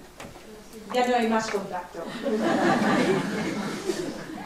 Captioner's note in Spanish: Risas